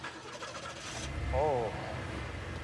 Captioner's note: engine starts